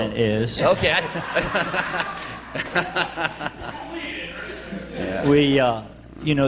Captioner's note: laughter